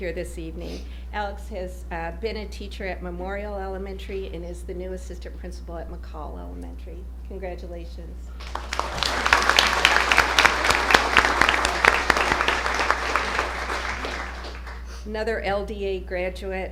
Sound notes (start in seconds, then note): 11.3 applause